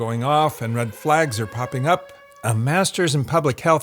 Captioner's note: siren wailing